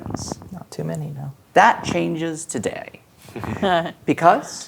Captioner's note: players laughing